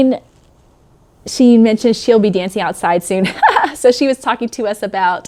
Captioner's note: chuckles